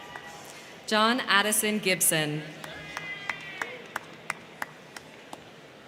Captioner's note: crowd cheering; crowd cheering